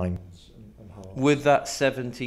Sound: guest murmurs

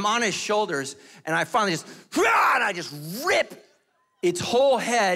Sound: yells

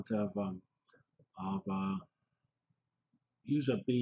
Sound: pause

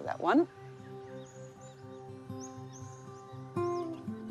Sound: birds tweet; tranquil music

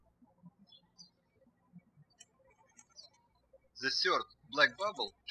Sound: birds chirping

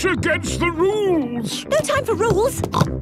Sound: snorts

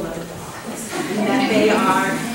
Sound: audience laughter

